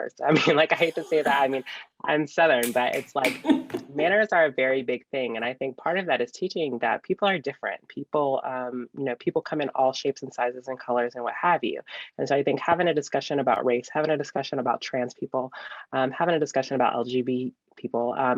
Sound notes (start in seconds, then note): 3.1 laughing